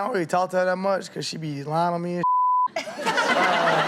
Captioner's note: beep; all laughing